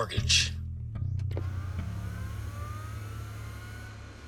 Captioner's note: machine whirring